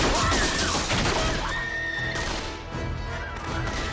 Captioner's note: fi and ellie scream